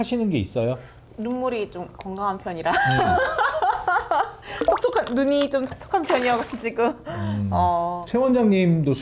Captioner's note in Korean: 웃음